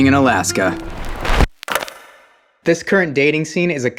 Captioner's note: pen dropping echoing